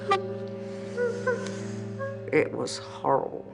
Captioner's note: sobbing